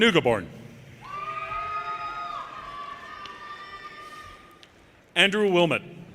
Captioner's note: audience cheers and applause